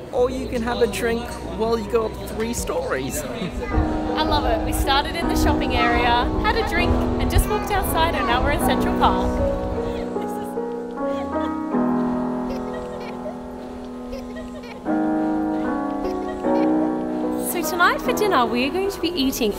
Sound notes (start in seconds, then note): 3.3 laughs; 9.3 soft music; 12.3 both laughing; 14.6 soft music